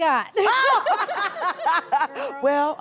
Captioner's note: laughing